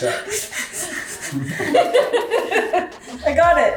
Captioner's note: laughing